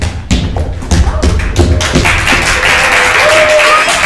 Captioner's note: crowd applauding